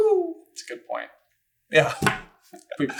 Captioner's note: laughs